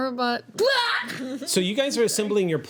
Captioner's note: shouts